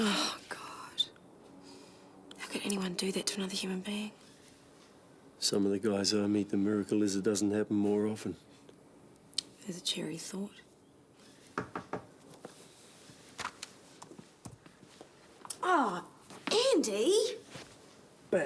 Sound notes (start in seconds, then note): 11.8 knuckles rapping; 14.0 footsteps tapping